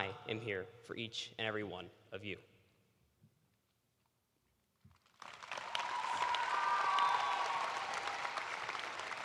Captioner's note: cheers and applause